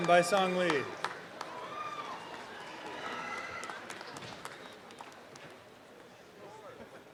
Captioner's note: applause and cheeering